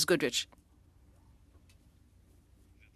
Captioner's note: speaking French